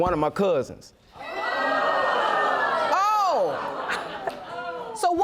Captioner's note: audience gasping